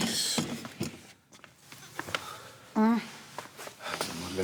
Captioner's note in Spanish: ella exclama